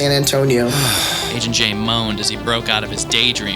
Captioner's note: Agent J moans